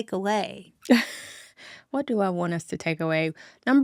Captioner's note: chuckling